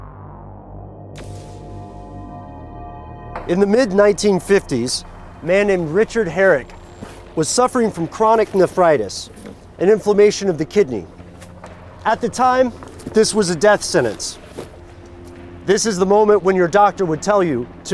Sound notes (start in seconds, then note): 1.2 electricity zaps